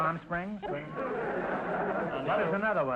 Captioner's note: audience laughter